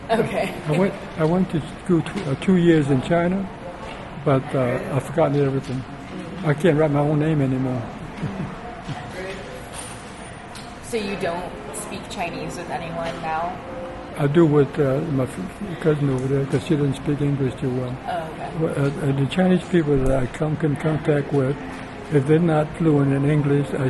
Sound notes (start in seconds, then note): 0.0 laughs; 8.2 laughs